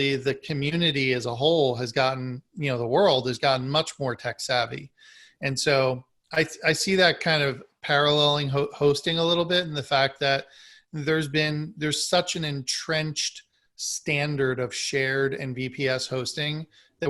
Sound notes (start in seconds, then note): none